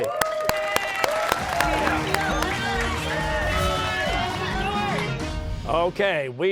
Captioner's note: cheers and applause